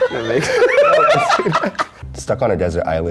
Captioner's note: everyone laughing